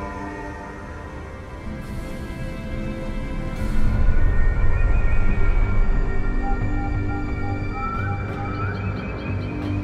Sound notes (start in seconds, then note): 5.6 birds calling